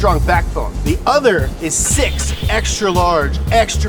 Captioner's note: tones zing